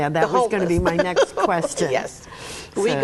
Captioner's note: laughs